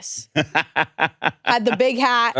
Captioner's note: laughs